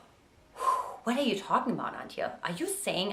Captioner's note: sighs